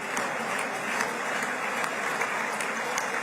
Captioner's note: applause